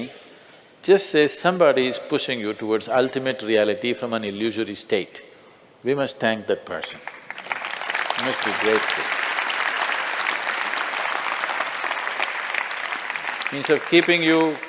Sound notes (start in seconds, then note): 7.0 Potlesk